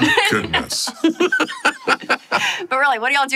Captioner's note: group laughs